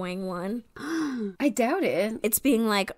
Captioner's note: gasp